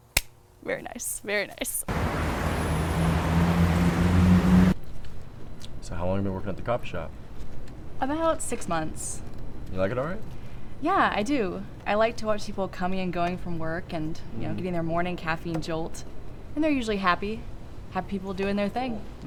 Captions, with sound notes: (Hand clapping) - Very nice, very nice. (Traffic humming) - So how long have you been working at the coffee shop? - About six months. - You like it all right? - Yeah, I do. I like to watch people coming and going from work and you know, getting their morning caffeine jolt. And they're usually happy, happy people doing their thing.